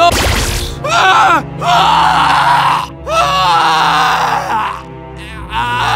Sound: RED Medic screams in terror

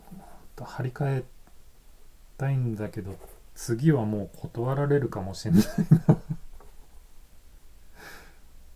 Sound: laughs

